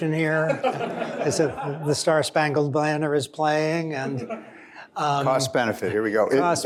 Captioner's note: laughter